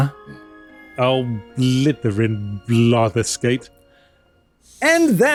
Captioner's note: british gibberish